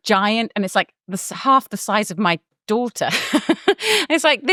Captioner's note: laughs